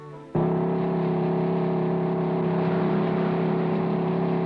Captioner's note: engines rumbling